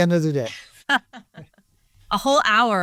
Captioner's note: laughs